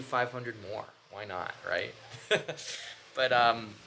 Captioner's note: laughs